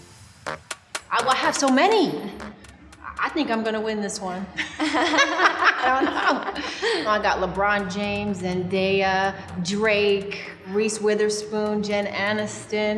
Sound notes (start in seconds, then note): 4.5 both laughing